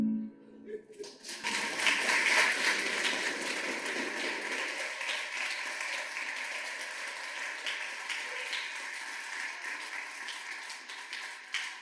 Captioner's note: applause